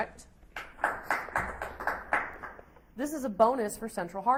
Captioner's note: audience applauds